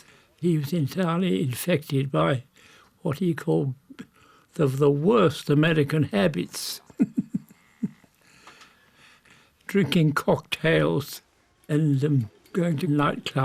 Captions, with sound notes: He was entirely infected by what he called, "the worst American habits." (chuckling) Drinking cocktails and going to nightclubs,